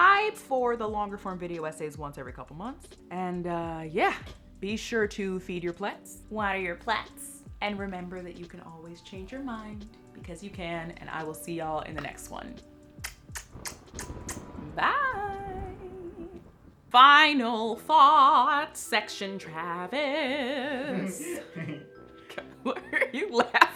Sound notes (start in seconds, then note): 14.6 kisses